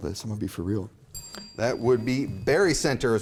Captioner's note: bell chimes